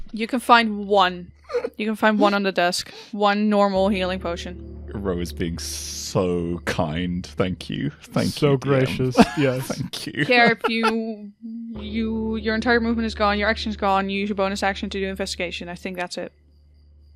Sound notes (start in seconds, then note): 8.1 laughing